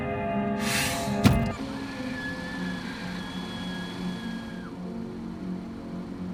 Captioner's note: slams hands against wheel and SCREAMS!